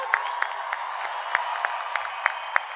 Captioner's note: cheers and applause